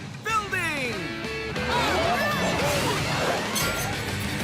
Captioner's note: cheering